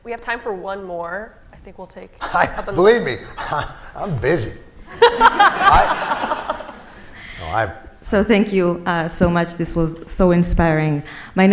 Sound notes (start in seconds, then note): 4.9 laughter